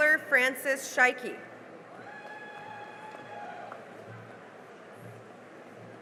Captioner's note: cheering and applause